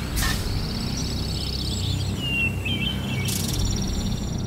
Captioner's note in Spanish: Pasos animatrónicos; Sonidos de naturaleza